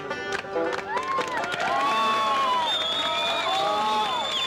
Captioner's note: all cheering